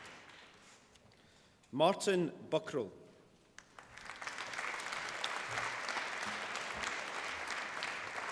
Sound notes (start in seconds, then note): 3.5 applause